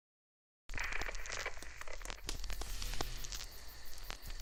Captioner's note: film crackles